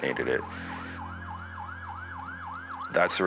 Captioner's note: sirens blare